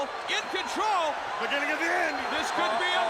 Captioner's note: crowd cheering